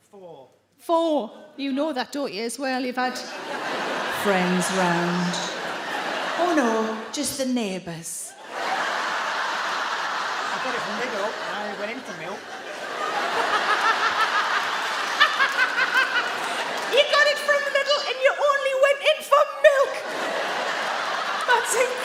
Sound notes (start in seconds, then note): 6.2 audience laugh; 8.8 audience laugh; 13.6 Sarah laughs; 13.6 audience laugh